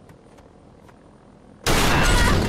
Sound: crashing boom

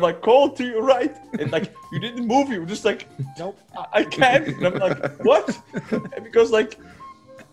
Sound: laugh

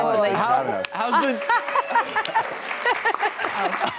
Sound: laughs

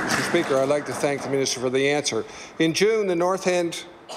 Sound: applause

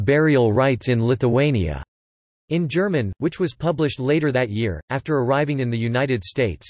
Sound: in German

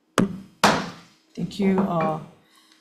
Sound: gavel bangs

